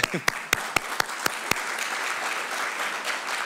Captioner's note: applause